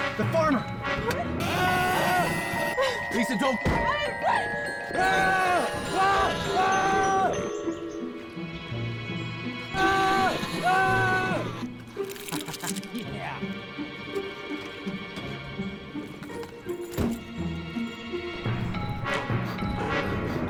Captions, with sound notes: - The farmer! - What? - Lisa don't go! - All right! (Murray screaming) (Ed chuckling) - Yeah!